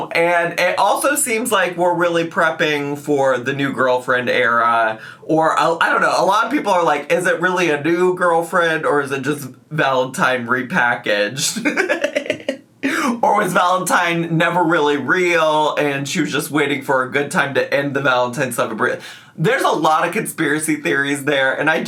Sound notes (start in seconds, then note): 11.4 laughs